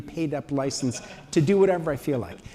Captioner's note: laughter